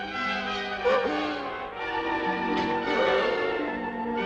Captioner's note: man yelps